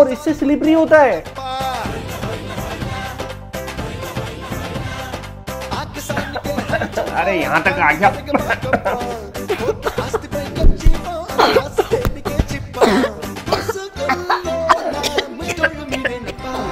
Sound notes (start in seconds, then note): 6.1 coughing; 8.3 coughing